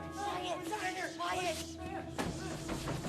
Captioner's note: pounding on door